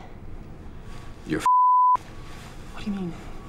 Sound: beep

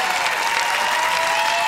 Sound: cheers and applause

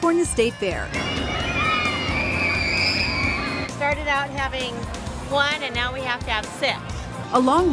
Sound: rides spinning

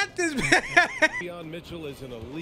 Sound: laughing

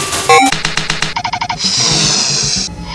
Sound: snort

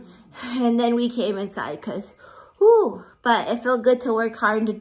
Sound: sighs

